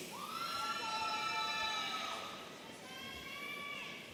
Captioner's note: audience cheering